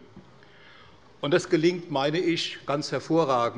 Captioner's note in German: none